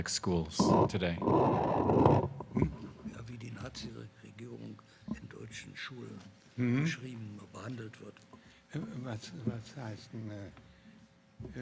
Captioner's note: consulting in german